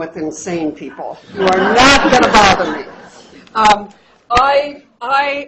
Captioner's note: laughter